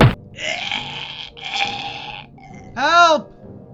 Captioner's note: thump; groaning